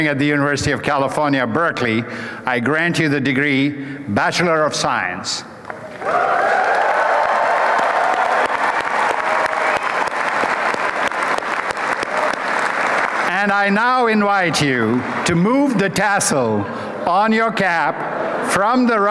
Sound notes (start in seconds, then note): 6.0 applause